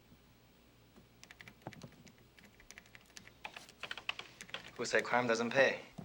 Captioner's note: keys clicking